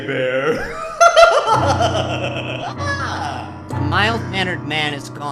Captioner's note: Tinky laughing